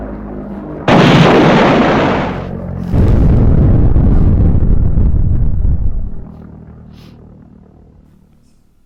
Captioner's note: planes flying overhead; bombing